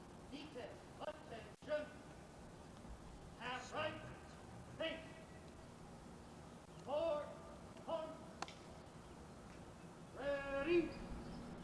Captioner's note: shouted commands